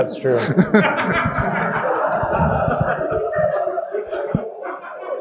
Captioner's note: audience laughing